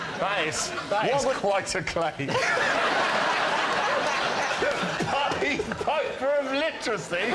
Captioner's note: laughter